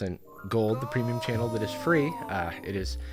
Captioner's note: disembodied voice